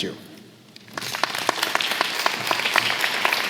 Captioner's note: applause